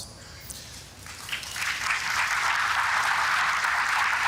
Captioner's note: audience applauding